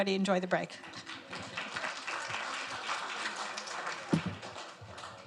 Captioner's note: audience applauds